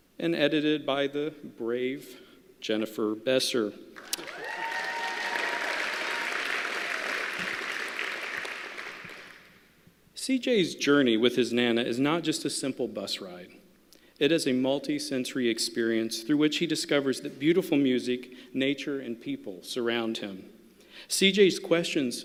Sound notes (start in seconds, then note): 4.0 applause